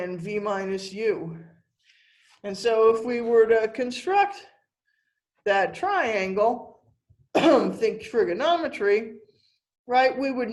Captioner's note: cough